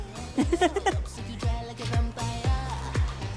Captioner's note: laughs